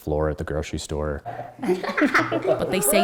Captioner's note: laughing